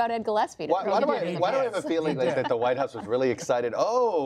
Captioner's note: laughter